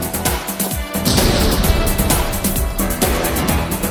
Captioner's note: explosion